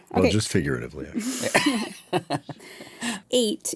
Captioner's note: chuckle